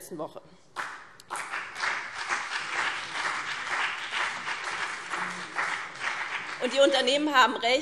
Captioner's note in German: Beifall BÜNDNIS 90/DIE GRÜNEN und vereinzelt CDU